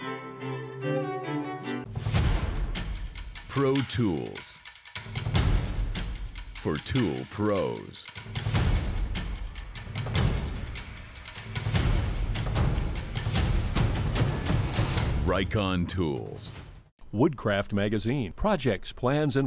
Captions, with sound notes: [Upbeat music] - [Voiceover] Pro tools for tool pros. (upbeat music) RIKON tools. -Woodcraft magazine- Projects, plans